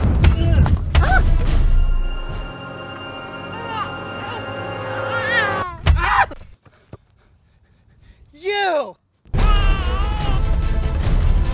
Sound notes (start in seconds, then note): 1.6 bell; 5.0 baby crying sound; 5.8 dramatic music stops; 9.4 dramatic music resumes; 9.4 baby crying sound